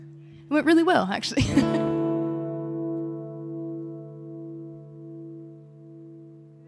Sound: laughing

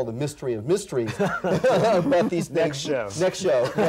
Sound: laughs

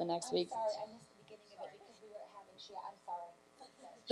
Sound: murmuring

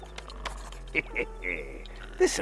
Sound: chuckles

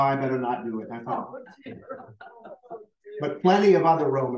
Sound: laughter

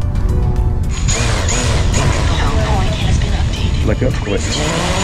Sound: drone whirring

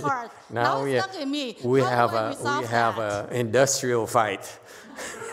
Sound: audience laughs

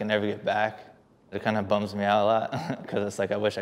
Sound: chuckles

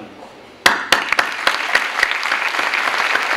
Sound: clapping

